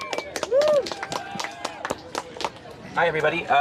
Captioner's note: applause